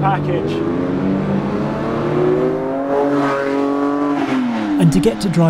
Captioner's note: car engine revving